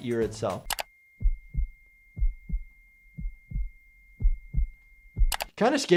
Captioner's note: high pitch static beeping